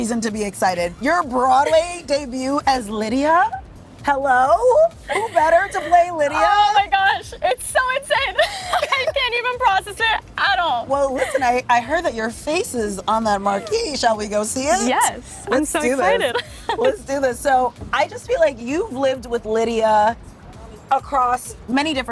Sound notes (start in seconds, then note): 7.8 laughs; 14.6 laughing